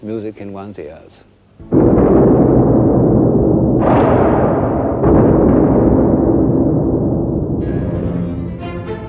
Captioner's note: thunderstorm